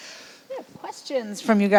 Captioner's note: laughs